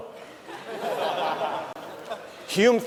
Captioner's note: laughter